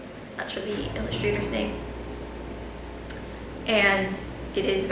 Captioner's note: loud AC noices